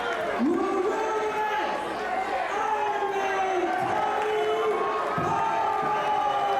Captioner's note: crowd cheering